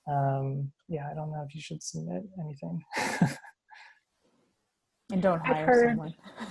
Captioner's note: laughs